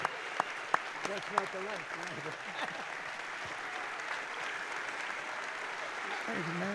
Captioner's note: applause